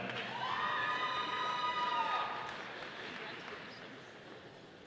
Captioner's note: audience applauding